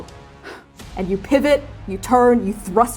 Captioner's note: sharply exhaling